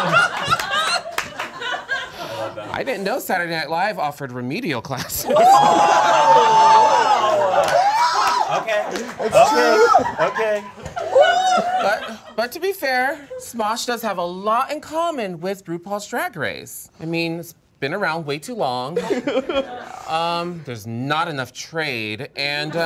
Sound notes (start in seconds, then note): 0.0 all laughing; 5.2 all exclaiming